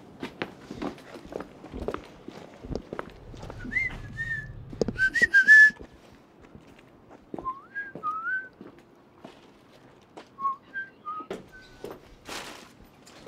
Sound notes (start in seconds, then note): 3.4 whistles same tune in reply; 4.8 whistles a tune; 6.8 quietly whistles same tune to himself, imitating it